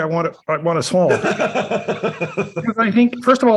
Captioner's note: laughs